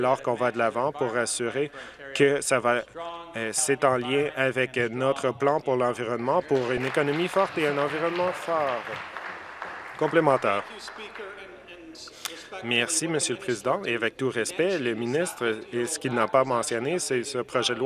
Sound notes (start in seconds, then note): 9.7 some Applause